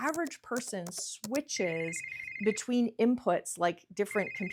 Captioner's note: keys clicking; phone ringing